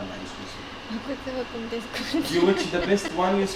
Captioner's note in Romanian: haha